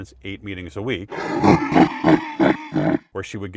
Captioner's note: sketch laughing